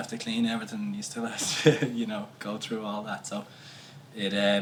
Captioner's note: laughs